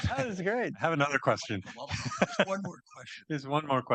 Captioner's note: laughs